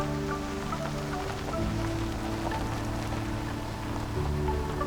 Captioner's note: car parking on gravel